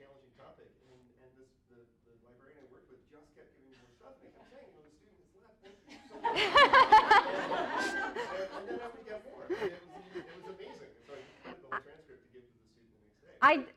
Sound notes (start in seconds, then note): 5.6 laughter